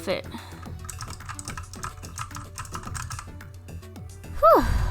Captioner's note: keyboard typing